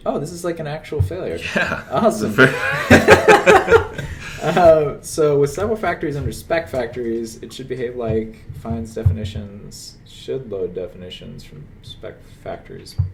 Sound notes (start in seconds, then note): 3.0 laughter